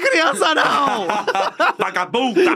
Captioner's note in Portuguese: risos